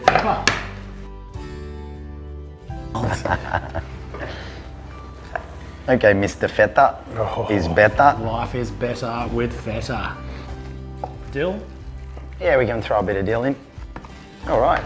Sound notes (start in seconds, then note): 2.9 laughing